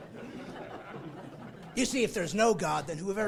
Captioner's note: laughing